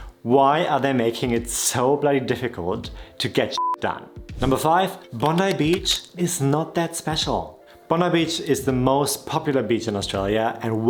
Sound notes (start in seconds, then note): 3.6 beep